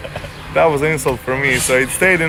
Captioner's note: laughing